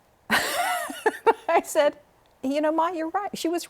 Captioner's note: laughter